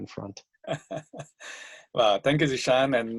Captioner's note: laughs